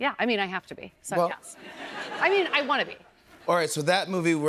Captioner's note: laughter